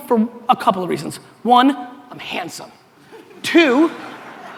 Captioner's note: audience laughter